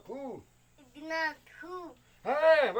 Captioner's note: speaking Yanomami; child speaking Yanomami; speaking Yanomami